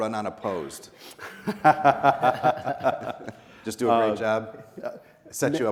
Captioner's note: laughing